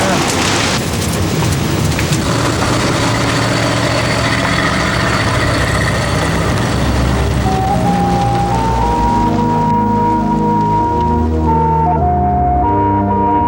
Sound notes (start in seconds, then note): 0.0 fire roars; 0.7 car engine running